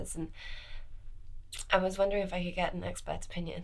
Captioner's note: none